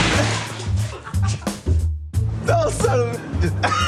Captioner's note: laughs